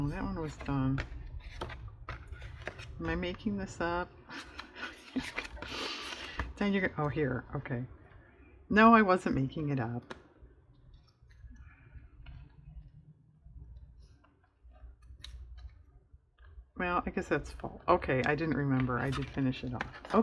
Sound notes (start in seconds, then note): 4.6 laughs